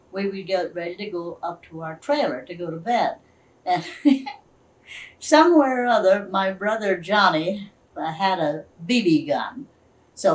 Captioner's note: laughs